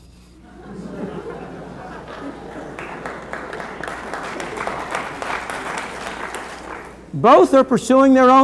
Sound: laughter and applause

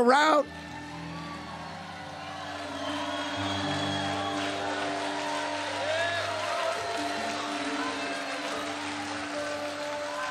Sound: congregation cheering

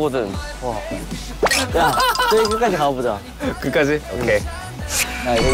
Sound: heheehehe

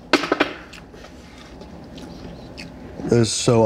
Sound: bangs; clank

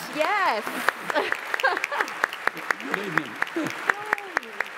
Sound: applause

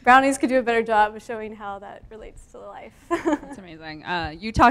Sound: laughs

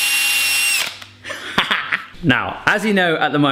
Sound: laughing

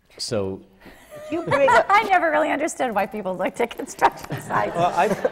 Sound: laughter

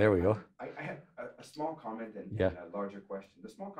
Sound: voiceover

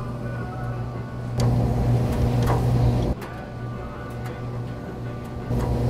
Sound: dryer hum builds more and more

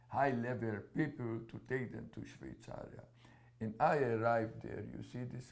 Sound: non-english

